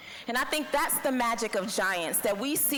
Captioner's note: none